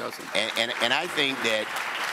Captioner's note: audience applauds